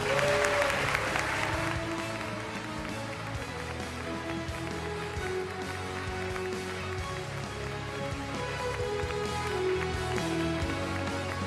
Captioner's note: applause